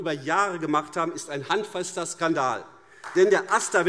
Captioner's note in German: Beifall AfD